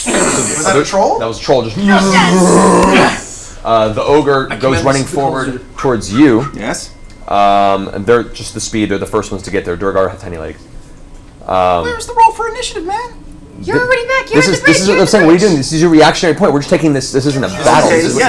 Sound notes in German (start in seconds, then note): 0.0 keucht auf; 1.8 Fallgeräusche; 11.1 mit hoher Stimme